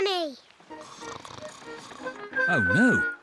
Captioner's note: snores